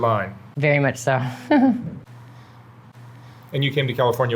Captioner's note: chuckles